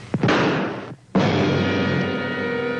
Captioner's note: tense music continues; gunshot ringing out; tense music continues